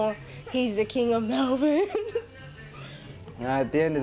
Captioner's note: laughs